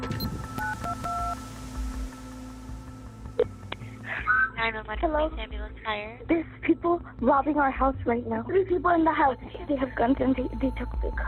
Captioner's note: phone dialing